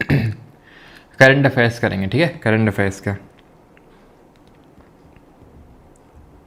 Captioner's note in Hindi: गला साफ़ करने की आवाज़